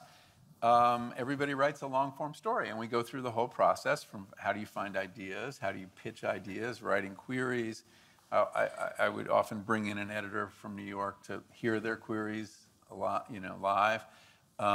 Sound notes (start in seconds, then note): none